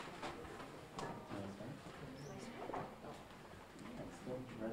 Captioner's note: audience talking